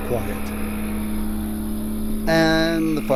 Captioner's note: distant motor revving